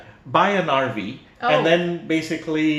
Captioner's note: sarcastic